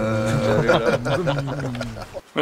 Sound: laughter

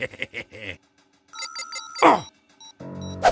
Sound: Soldier laughs; phone ringing

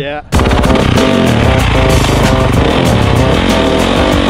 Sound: engine revving; upbeat music

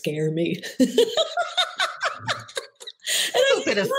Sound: laughs

